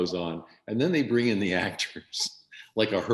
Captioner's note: laughing